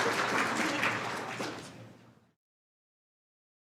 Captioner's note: applause